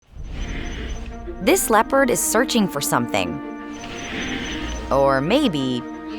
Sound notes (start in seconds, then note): 0.0 hissing